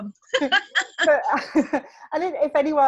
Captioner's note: both laughing